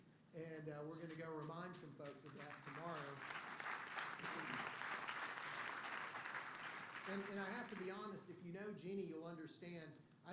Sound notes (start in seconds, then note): 2.0 applause